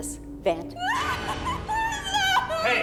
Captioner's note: screaming